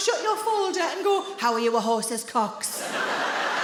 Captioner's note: in a deep voice